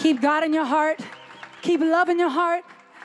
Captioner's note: applause